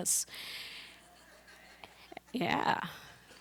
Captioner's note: laughter